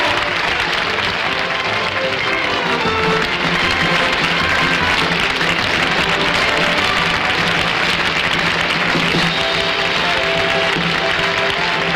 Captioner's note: audience Applauding